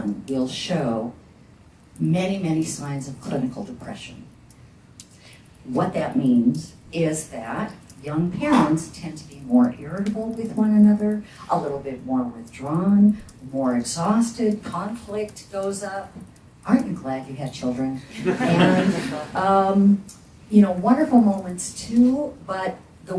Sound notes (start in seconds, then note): 18.1 audience laughs